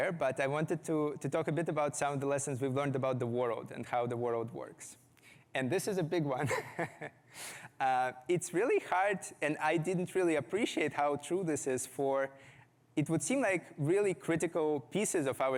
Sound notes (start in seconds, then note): 6.4 chuckles